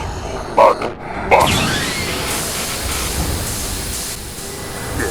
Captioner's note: Steam releasing as Sentry shuts down